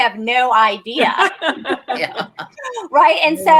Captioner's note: laughter